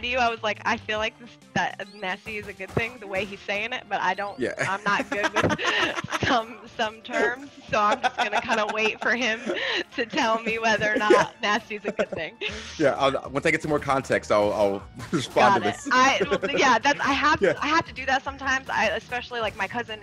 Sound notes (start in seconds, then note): 6.3 laugh